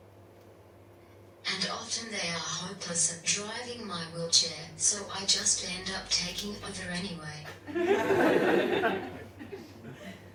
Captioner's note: audience laughs